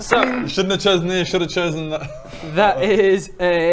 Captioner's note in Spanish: risas